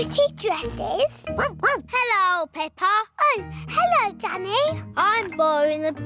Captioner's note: barks